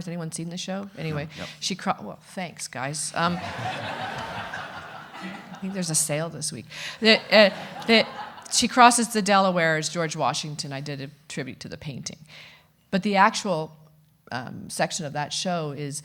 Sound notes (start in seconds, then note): 3.2 audience laughing